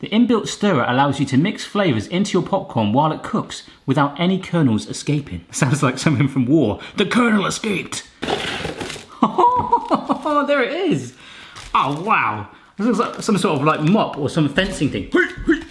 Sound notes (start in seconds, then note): 9.1 laughs